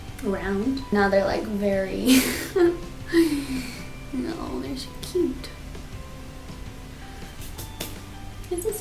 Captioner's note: hands dusting